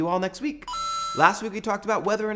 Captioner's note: mario coin sound